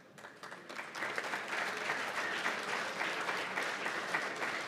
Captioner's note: applause